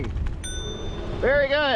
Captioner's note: ding